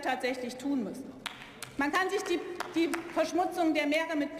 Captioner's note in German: vereinzelter Beifall